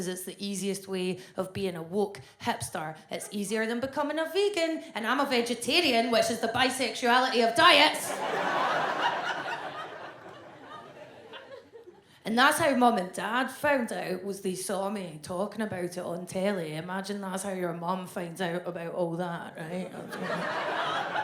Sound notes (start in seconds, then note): 7.8 audience laughs